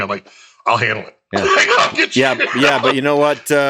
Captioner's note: laughs